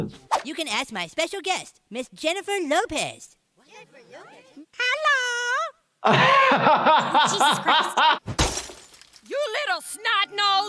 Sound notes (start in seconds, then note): 3.6 kids murmuring; 6.0 laughing; 8.3 glass breaking